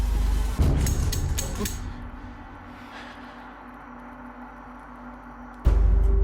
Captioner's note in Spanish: Clics